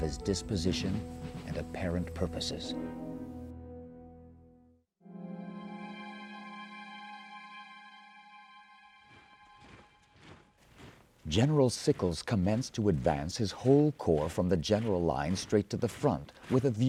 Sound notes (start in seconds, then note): 5.0 dramatic music; 9.7 heavy marching